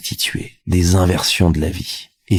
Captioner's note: french dialogue continues